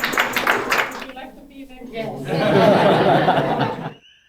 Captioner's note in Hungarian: Nevetés